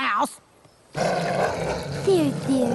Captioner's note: snarl